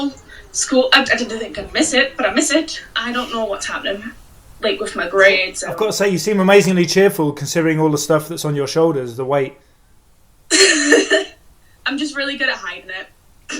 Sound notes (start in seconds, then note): 10.5 laughs